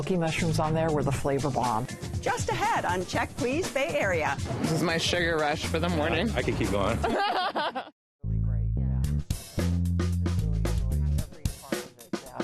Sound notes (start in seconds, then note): 6.8 laughs